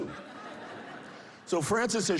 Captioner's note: laughter